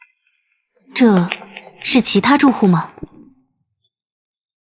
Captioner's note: footsteps